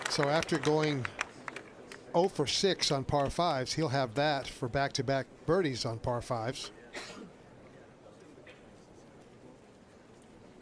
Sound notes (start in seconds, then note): 2.7 applause